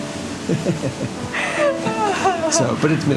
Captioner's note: laughter